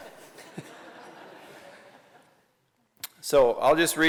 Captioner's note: laughter